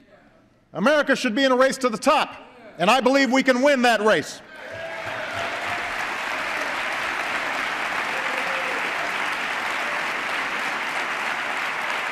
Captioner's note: applause